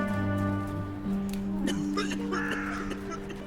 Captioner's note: coughing